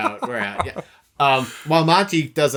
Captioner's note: chuckling